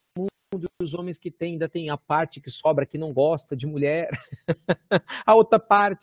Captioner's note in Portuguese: risos